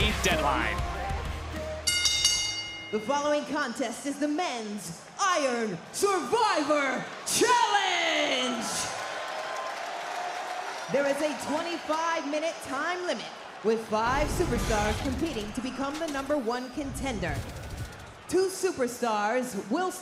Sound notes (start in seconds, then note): 3.8 bell rings; 9.3 crowd cheers